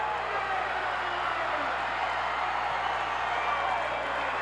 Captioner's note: crowd cheers